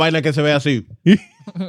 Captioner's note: speaking In Foreign Language